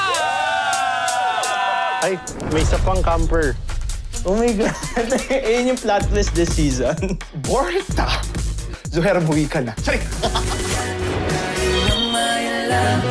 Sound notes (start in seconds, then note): 0.0 cheering; 4.6 laughs; 10.1 laughs